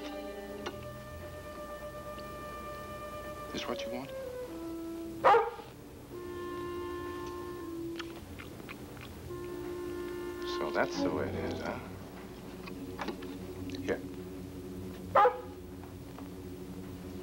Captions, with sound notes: This what you want? (barks) So that's the way it is, huh? Here. (barks)